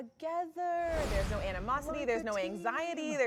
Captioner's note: air whooshing